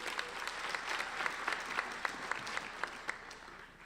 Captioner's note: applauding